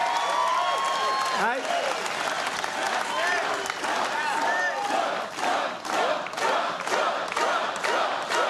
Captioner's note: cheers and applause